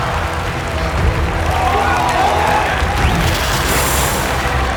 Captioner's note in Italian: urla e applausi; musica intensa e drammatica continua